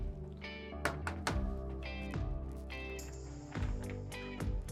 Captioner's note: Barney knocks